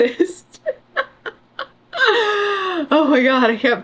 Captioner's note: laughs